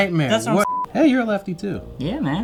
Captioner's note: beeps